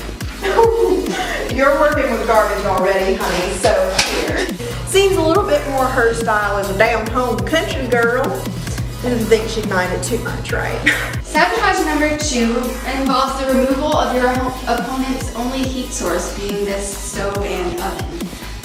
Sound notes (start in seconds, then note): 0.2 condescending laughter; 6.5 forced Southern accent